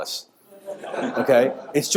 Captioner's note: audience laughing